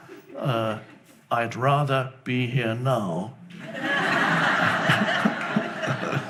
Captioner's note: laughing